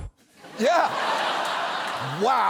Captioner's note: studio audience laughs